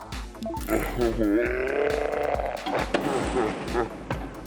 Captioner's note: distorted grunt